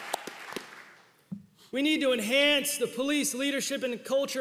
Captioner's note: applause